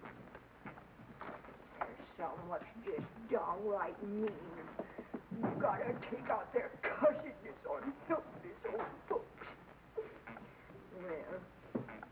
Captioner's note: rocking chair creaks; granny grumbles